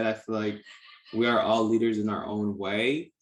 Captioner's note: none